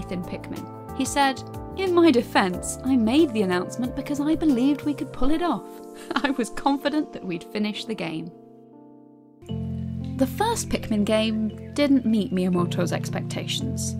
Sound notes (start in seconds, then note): 6.0 laughs